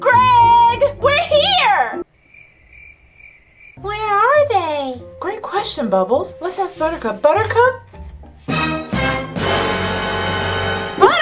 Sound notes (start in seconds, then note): 2.0 crickets chirping; 8.5 dramatic fanfare